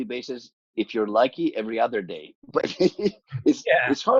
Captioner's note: laughs